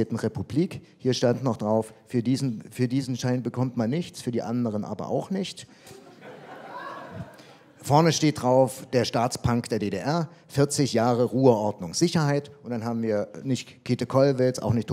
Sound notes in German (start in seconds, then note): 5.8 Publikum lacht